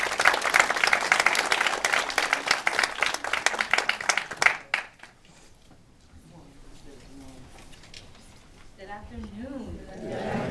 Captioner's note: applause